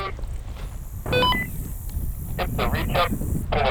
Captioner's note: radio beeps